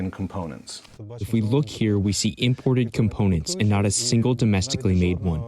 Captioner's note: through translator